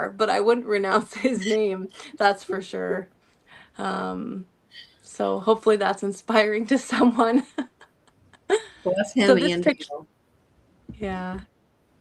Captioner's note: laughter